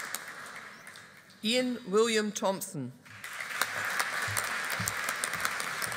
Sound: audience applauding

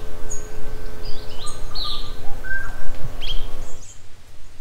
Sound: birds tweeting

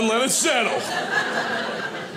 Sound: audience laughing

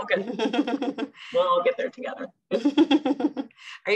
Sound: chuckles

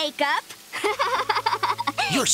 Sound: laughing

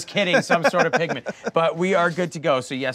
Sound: laughing

